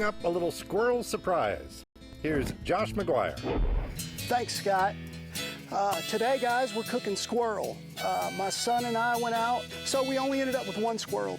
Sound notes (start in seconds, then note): 3.4 whooshing sound